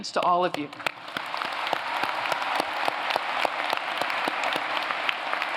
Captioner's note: applause